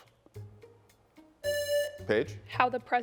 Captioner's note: buzzer buzzing